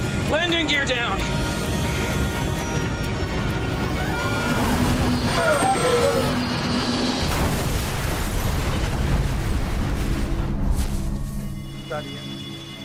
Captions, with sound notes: Landing gear down. (plane crashes)